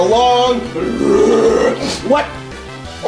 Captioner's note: angry roar